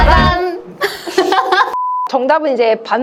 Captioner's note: laughter